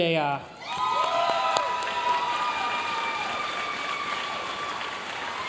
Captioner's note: audience cheering and applauding